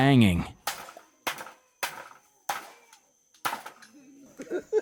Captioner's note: metal clanking